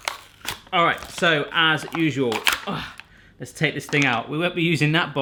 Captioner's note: plastic crunching; groans